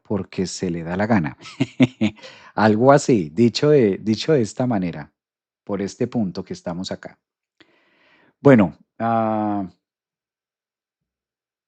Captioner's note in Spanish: risas